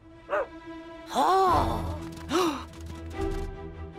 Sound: Lily barking; gasps; Cozmo laughing

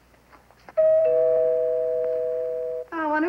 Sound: doorbell

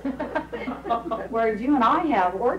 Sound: laughing

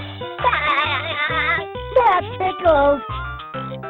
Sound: laughing

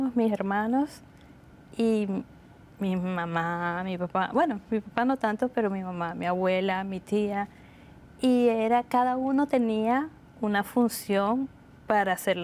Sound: speaking Spanish

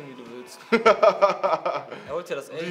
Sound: laugs

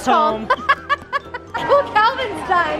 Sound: laughs

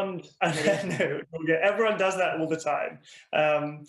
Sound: laughing

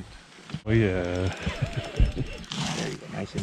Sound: reel cranking

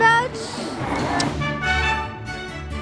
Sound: lip smacking; cheerful music

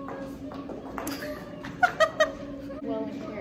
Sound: laughs

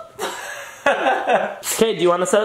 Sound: laughing

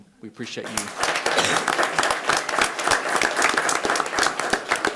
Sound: attendees applauding

